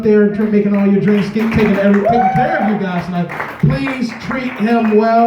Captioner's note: medium applause; loud cheering; medium applause